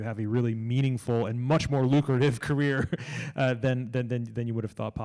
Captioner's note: laughs